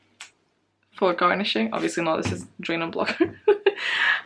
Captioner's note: laughs